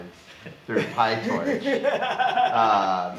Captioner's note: laughs